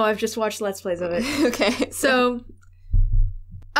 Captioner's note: laughing